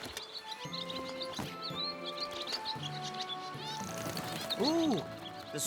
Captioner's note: birds Chirping Loudly